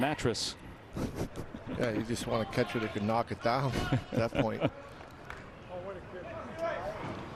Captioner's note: laughing